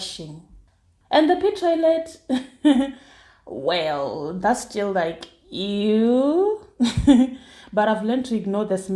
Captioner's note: giggles